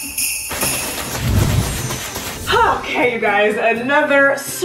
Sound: costume arm flapping

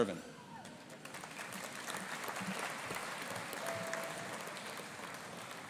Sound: audience applauding

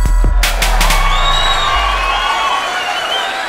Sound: applause

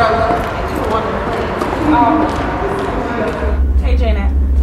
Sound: both mumbling

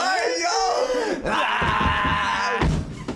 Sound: yelling

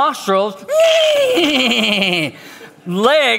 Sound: pastor whinnies

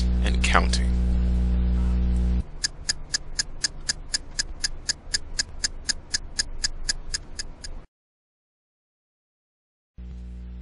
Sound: tick tock

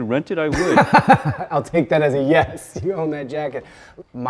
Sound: laughing

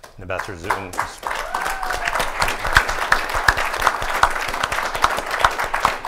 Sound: audience applauding and cheering

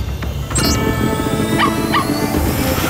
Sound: barking

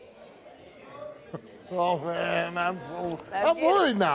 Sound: laughs

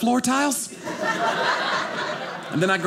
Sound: audience laughing

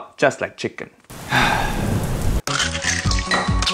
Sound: rain falling; upbeat music

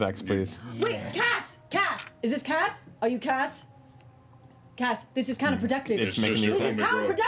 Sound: shouting

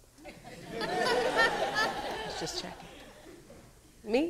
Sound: audience laughing

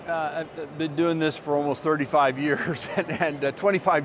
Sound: laughs

